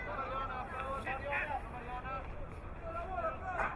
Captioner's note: crowd muttering